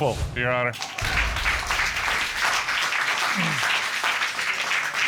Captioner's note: applause